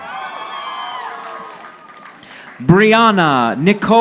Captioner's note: audience applauding